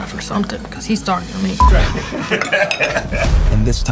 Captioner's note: all laugh